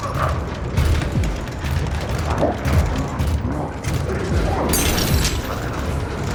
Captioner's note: door rattling; growling echoes faintly